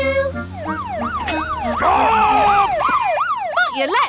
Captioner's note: siren wailing